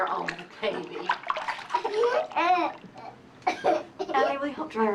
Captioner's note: molly crying